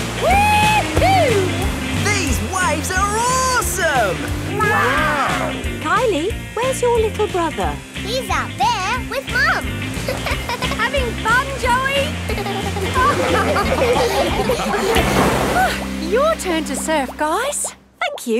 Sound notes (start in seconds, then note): 11.6 laughing; 11.9 giggles